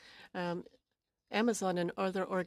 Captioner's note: speaking French